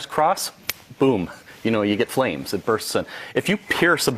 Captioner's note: snaps fingers